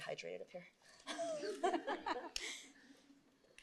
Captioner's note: laughter